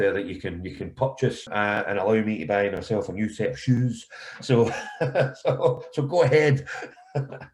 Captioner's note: laughter